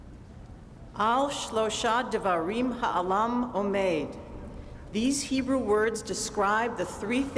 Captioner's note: speaking hebrew